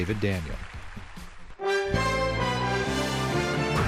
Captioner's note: applause